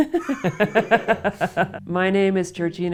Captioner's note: laughter